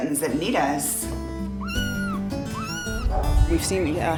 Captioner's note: kittens meow